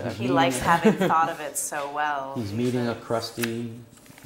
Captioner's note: laugh